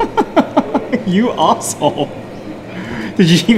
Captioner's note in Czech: smích